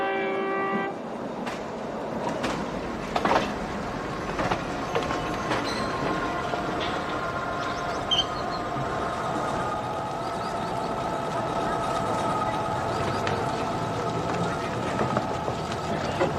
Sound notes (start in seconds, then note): 2.8 train horn blowing